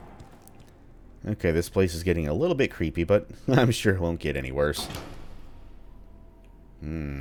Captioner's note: chuckles